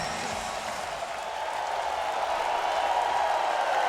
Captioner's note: crowd cheering